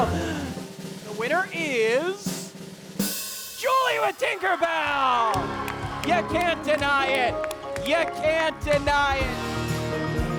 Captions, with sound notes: (drum roll rattling) - The winner is... - Julie with Tinker Bell! (audience cheering) You can't deny it, you can't deny it.